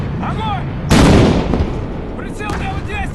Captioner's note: sound of a gunshot